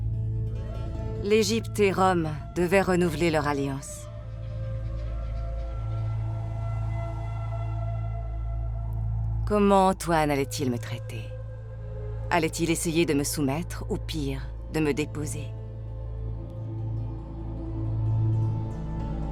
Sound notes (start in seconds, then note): 0.1 gentle thoughtful music; 6.4 wind whistling